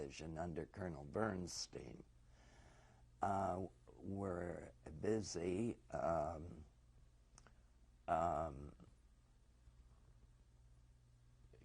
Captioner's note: pauses for 6 seconds